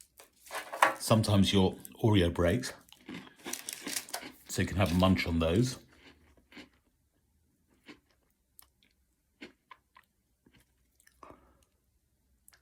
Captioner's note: munch munch